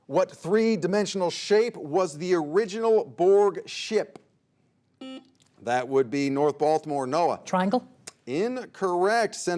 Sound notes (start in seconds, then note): 5.0 buzzer beeps